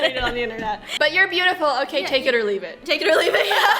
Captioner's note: laughs